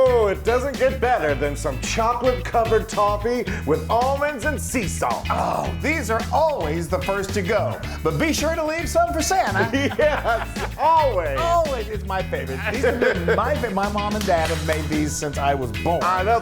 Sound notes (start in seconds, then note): 10.6 laugh